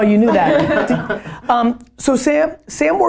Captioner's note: all laughing